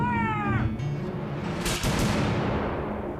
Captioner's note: Loyalist gunfire